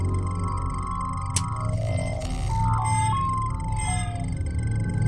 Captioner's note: switch click & electronic beeps